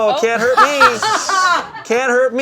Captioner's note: group laughing